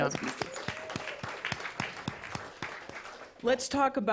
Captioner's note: applause